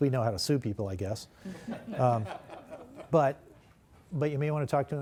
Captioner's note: laughter